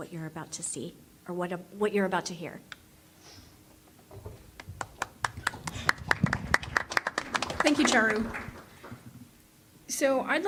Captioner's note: applause